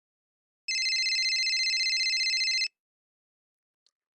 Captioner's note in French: sonnerie de téléphone